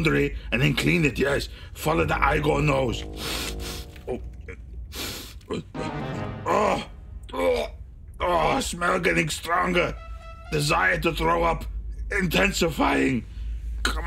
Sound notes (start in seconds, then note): 2.1 soft melodic music; 3.4 Igor sniffing